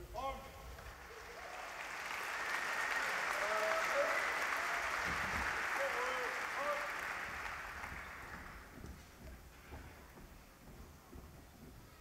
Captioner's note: applause